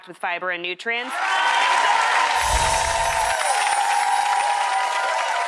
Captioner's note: audience applauds